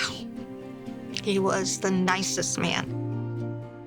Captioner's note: sighs